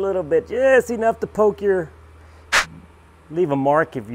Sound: whooshing

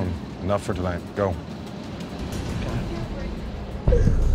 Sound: sobs

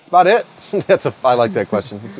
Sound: laughs

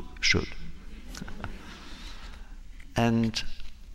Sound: laughter

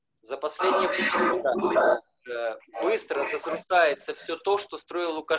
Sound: speaking foreign language

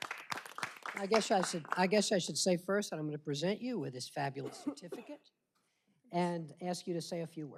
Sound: applause

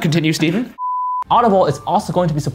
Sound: beeping

